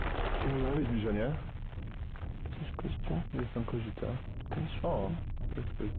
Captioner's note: in foreign language